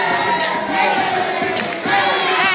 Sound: chanting

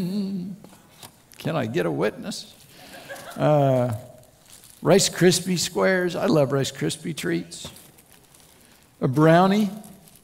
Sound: laughter

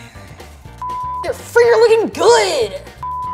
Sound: graphic beeps

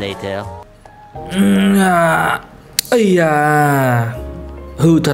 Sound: manly grunts

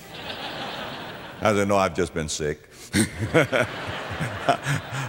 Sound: audience laughter

